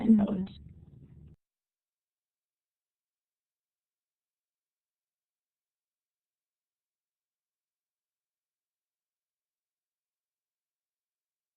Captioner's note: silence